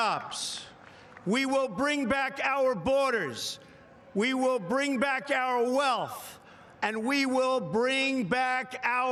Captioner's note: applause; cheering